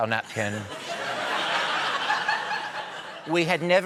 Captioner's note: laughter